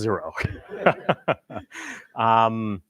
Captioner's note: laughing